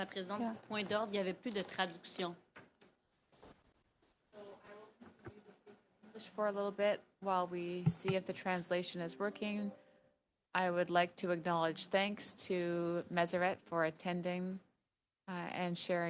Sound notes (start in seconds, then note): 5.4 speaking French